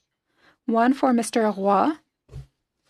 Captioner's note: speaking French